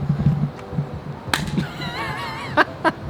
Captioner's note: high five clap; laughing